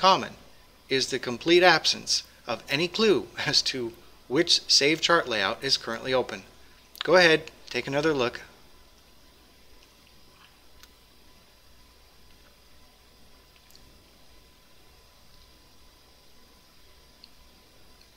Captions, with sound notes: However what they do hold in common is the complete absence of any clue as to which saved chart layout is currently open. Go ahead, take another look... [pause] [pause]